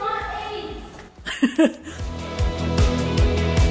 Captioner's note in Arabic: يضحك; موسيقى مبهجة